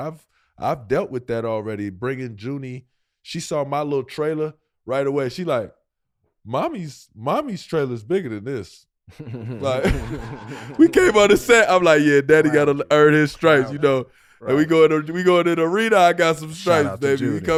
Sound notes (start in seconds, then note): 9.2 Rel laughing; 16.5 laughing